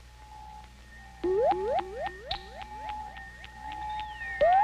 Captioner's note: radar beeping